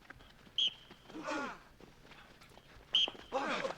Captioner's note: grunting; whistle blows; grunting; whistle blows